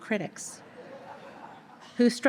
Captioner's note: audience laughter